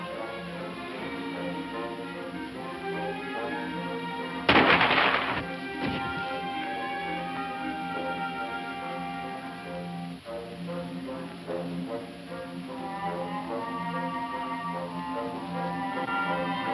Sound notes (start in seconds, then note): 4.5 more gunshots; 10.3 dramatic music